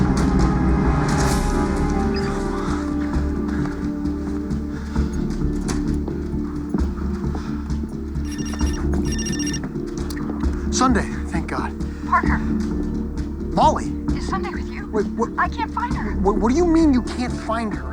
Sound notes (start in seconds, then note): 0.1 signal scanner beeps; 8.2 cell phone rings